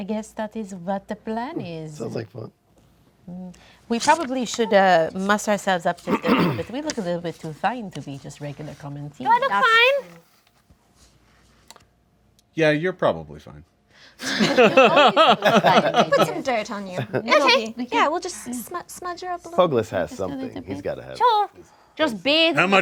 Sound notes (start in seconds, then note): 14.2 group laughs